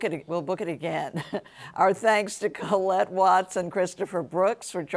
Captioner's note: chuckles